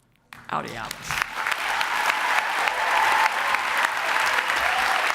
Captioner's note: applause